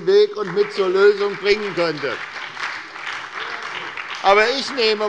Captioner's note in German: Beifall bei der SPD